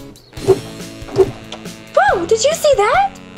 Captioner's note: air swooshes